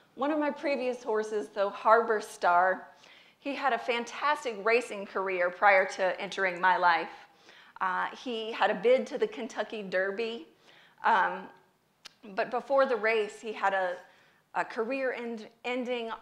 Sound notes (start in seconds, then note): none